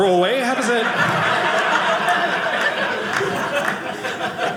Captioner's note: audience laughing